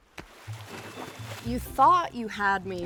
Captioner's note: water splashing; upbeat music